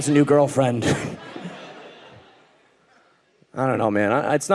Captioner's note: audience laughing